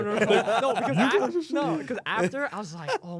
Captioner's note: laughs